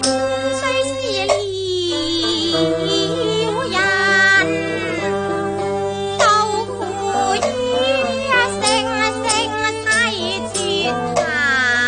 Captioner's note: cuckoo